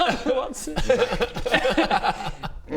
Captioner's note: chaos laughter